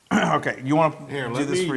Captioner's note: cough